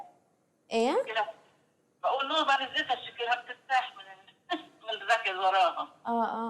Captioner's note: non-english speech